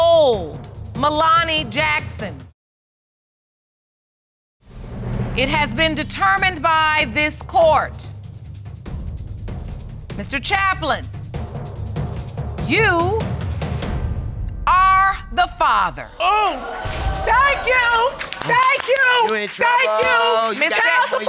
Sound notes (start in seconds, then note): 16.2 audience exclaims